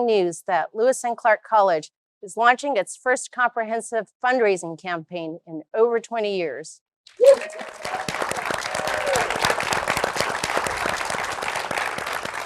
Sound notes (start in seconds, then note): 7.1 cheering and applause